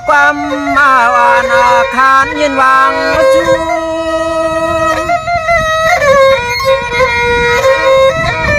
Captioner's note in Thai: ปรบมือ